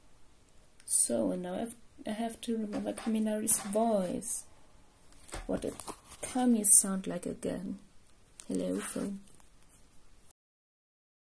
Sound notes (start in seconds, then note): 5.0 rustling